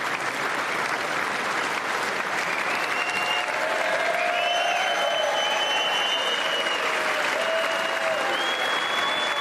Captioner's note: applause